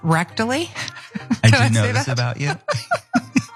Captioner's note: laugh